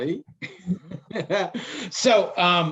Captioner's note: laughing